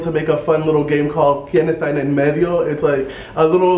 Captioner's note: spanish